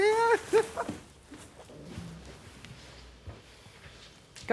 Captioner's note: Evelyn chuckling